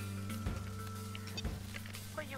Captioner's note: Beeps on mobile